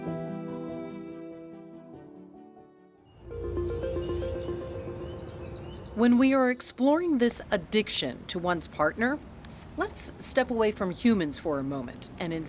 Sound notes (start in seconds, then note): 3.3 electronic contemplative music; 4.9 birds chirp